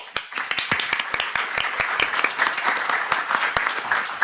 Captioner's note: audience applauding